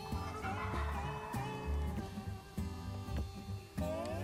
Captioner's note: turkey gobbles; country music